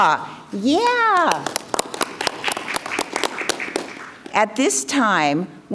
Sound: crowd clapping

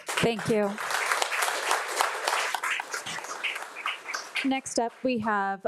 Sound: audience applauding

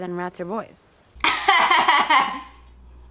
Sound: laughs

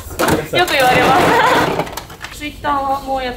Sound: laughs

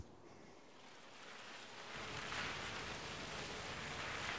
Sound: water spraying

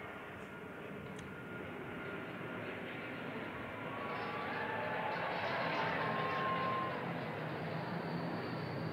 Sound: cheers and applause

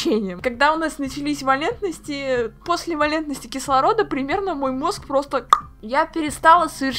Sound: pop

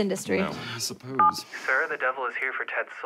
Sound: intercom beeps

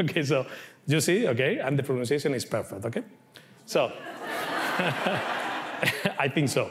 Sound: laughs

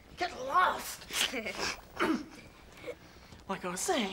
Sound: giggling

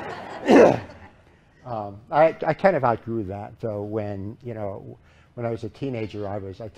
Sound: laughter

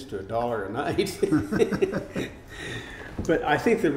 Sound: laughing

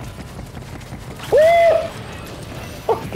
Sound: screams

